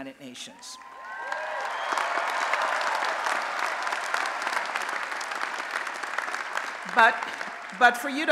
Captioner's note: applause and Cheering